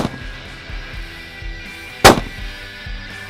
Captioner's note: gun Shot; gun Shot